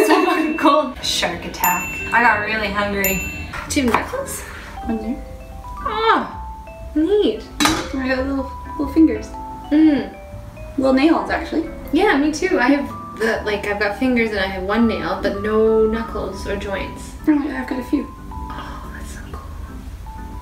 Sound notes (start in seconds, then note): 0.0 bell chiming; 0.6 beep; 3.2 bell chiming